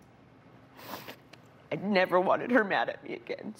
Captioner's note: sniffles